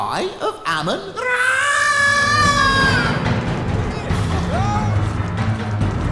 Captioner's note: screams